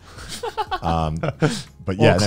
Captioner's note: laughs